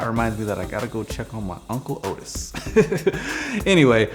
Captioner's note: laughs